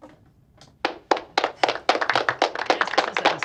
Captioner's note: applause playing